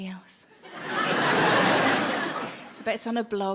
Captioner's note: audience laughing